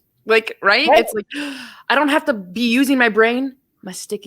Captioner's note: sighs